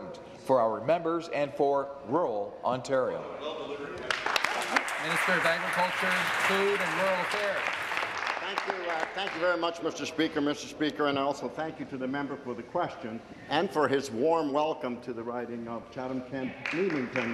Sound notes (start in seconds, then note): 6.4 applause